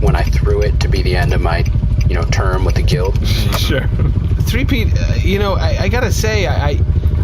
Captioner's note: laughs